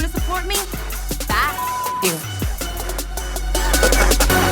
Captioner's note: beep